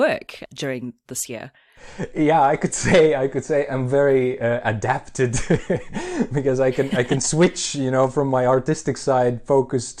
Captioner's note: laughs